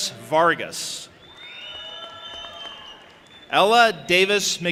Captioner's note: audience applauding and cheering